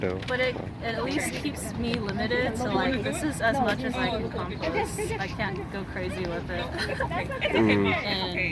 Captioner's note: laughs